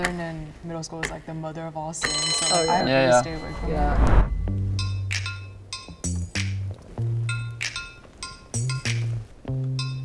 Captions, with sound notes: in middle school it's like the mother of all sins. (bell rings) - Yeah, yeah. - So, I stayed away from it. (upbeat music)